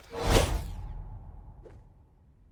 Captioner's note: swoosh!